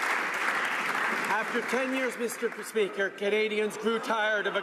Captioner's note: some Applause